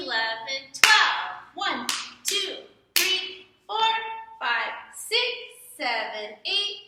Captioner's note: clap